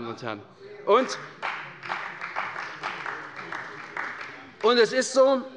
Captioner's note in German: Beifall bei der CDU